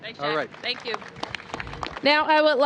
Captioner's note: applause